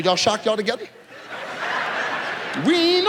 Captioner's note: audience laughs